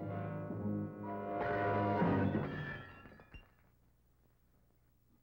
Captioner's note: glass shattering